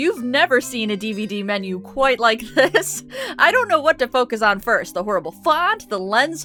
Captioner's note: laughing